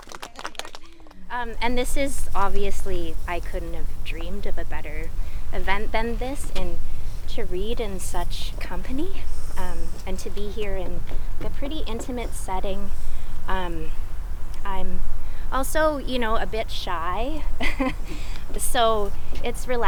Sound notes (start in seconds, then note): 7.3 chuckles; 10.9 group laughs